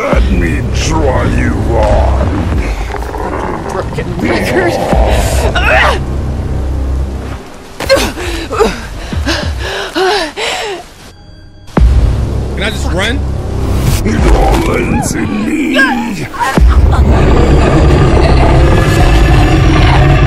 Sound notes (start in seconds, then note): 5.4 character grunting; 8.0 character gasping; 11.2 intense music; 16.2 character choking